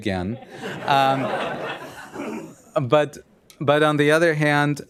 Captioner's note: laughter